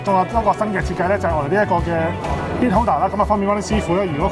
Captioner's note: foreign language 00:01:50